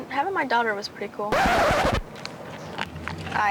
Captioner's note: scratching record